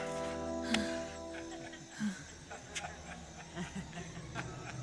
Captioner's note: high schoolers chuckling